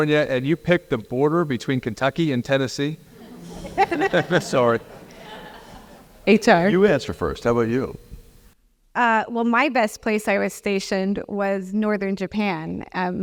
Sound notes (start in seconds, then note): 3.1 laugh